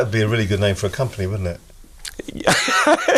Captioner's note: laughing